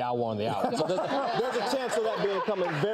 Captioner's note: audience laughing